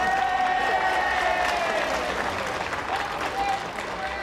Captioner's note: crowd cheering